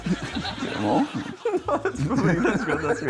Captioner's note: laughs